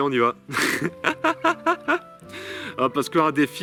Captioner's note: laughter